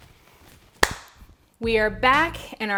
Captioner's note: claps